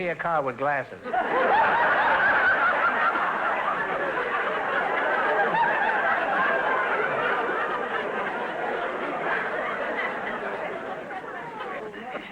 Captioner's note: audience laughter